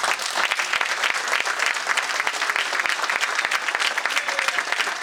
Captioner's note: audience applauding